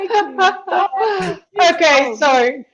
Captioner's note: chuckles